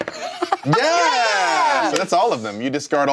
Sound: cheering

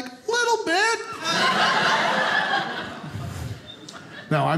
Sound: audience laughing

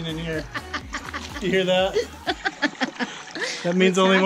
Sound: laughing

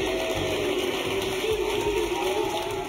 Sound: audience applauding; dramatic music

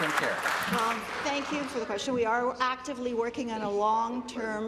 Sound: applause

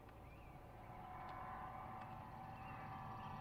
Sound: vehicle Approaching

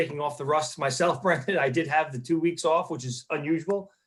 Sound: chuckles

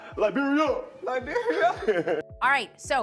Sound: both laughing

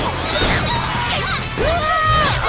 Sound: screaming

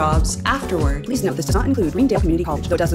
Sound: speaking rapidly

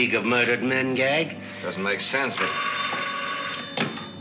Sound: phone rings

